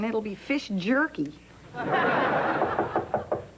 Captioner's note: knock on door